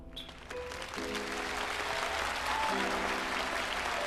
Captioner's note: audience applauding